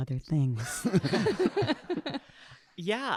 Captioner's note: audience laughing